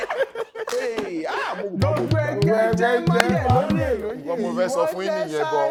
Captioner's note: laughs